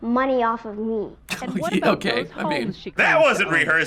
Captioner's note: snickers; sarcastic